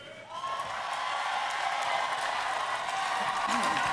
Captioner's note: applause